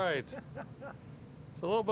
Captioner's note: chuckling